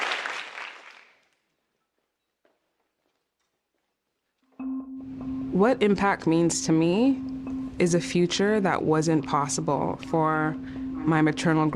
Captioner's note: applause